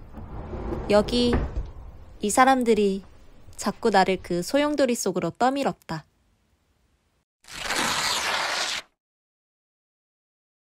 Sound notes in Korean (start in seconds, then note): 0.0 스르륵, 문 열리는 소리; 7.4 종이 찢는 소리